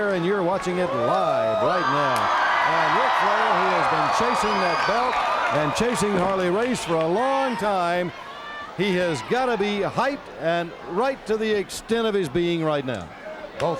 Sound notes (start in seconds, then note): 2.3 crowd cheers